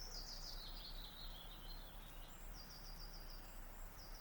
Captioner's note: birds chirping